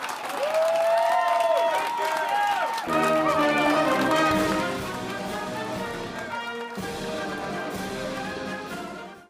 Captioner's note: applause